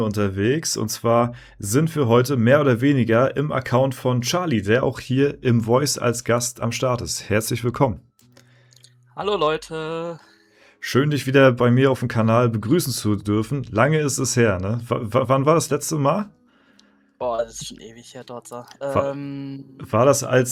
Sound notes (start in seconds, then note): none